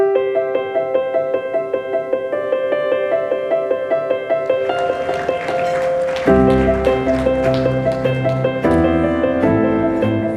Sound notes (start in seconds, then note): 0.1 piano music; 4.2 audience applauding